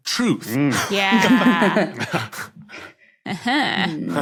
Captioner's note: group snickering